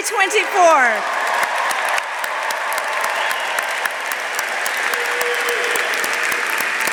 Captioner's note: audience applauding; audience cheering